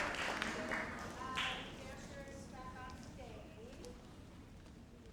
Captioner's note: speaks faintly